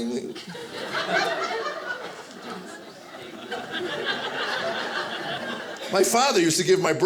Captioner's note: audience laughing